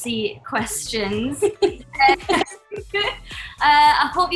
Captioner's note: laughs